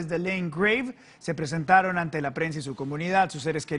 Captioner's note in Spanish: hablan inglés